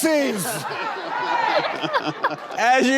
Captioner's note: laughing